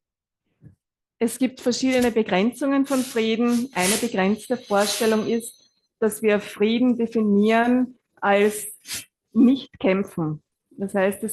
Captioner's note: German live translation